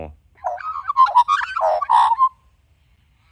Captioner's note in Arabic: غناء طائر العقعق